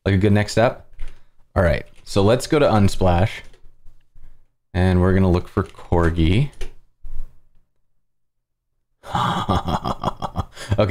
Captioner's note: laughs